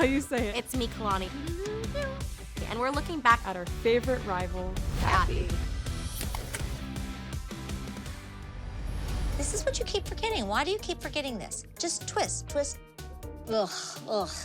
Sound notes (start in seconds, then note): 1.3 vocalizes; 5.6 clicks